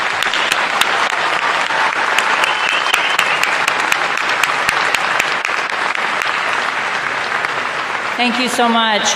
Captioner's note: applause